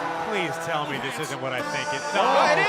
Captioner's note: crowd cheering